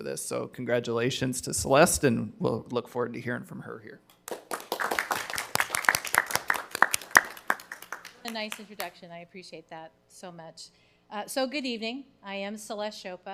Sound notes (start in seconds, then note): 4.2 people clapping